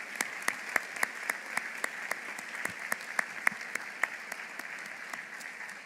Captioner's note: applause